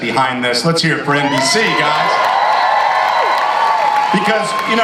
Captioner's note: audience cheers